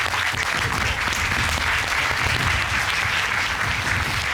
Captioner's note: applause